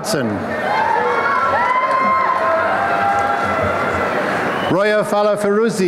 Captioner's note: applause and cheering